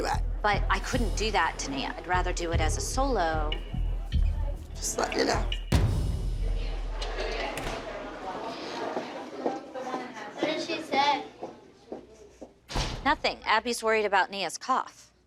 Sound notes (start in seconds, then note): 5.7 tense music; 6.2 indistinct chatter